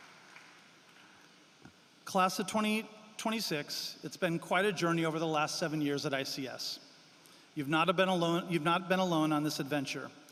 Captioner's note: applause